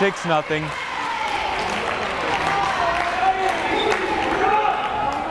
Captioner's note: crowd cheering